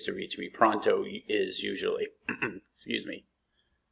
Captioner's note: clears throat